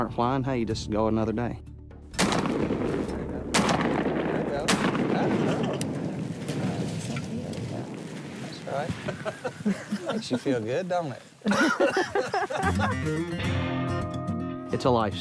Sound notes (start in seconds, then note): 2.1 gunshots; 7.1 splash; 9.0 laughter